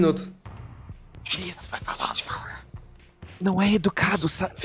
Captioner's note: whispering